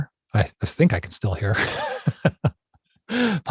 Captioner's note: laughs